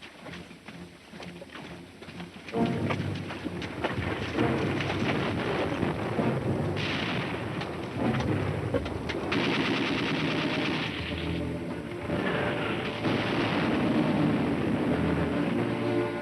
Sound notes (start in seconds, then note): 2.7 tense music; 9.1 gunshots